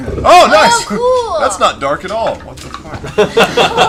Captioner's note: mutters; laughter